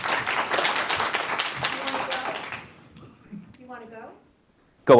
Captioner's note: applause